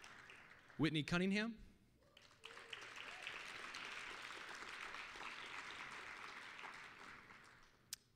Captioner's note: applause